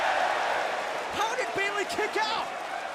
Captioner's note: crowd cheering